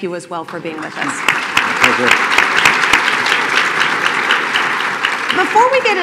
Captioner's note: applause